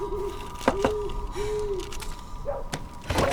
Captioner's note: knocks